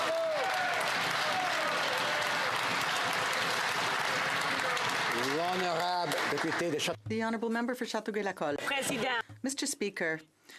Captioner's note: some Applause